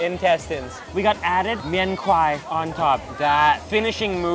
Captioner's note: speaks in a foreign language